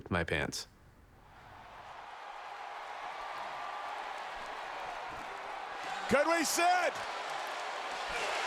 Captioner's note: applause